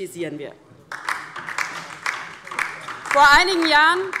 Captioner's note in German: Beifall DIE LINKE